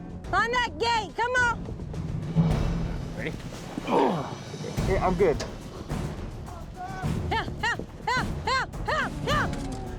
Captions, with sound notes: FIND THAT GATE! COME ON! READY? [GRUNTING] I'M GOOD. HYAH! HYAH! HYAH! HYAH! HYAH!